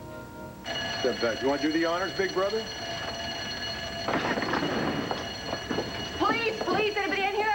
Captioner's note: burglar alarm rings